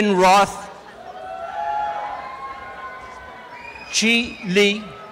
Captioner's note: applause and cheering